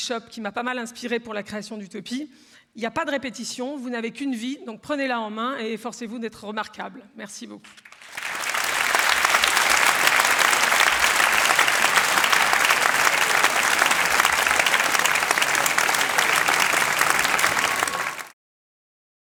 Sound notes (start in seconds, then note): 8.3 applause